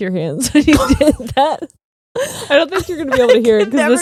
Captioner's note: both laughing